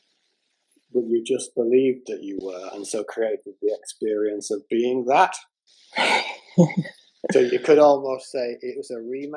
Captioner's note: laughter